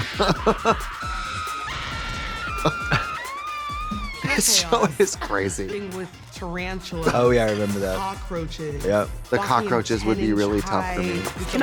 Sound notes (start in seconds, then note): 0.0 Trixie har-hars; 0.0 models screaming